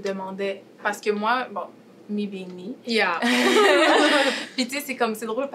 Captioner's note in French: rires